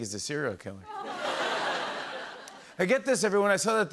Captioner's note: laughter